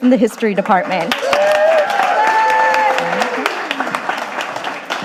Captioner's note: audience applauding